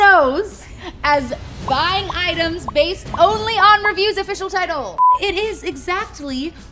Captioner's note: beep